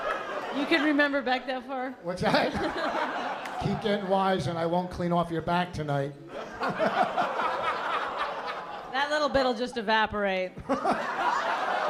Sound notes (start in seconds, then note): 0.0 laughter; 6.3 laughter; 10.6 laughs